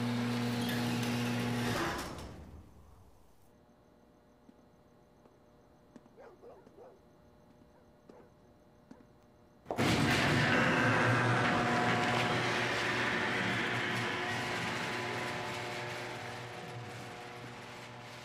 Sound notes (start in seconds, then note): 6.1 dogs barking; 9.7 garage motor whirring